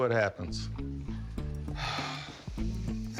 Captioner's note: sighs